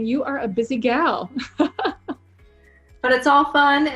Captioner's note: laughs